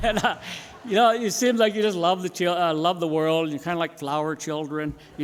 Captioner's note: laughter